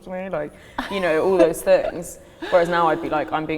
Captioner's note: laughs